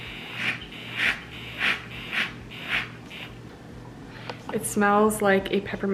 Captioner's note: milk frother whirring